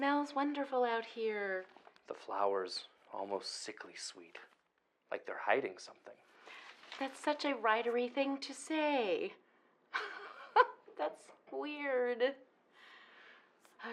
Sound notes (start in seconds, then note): 10.9 laughs